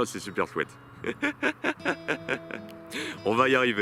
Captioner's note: laughs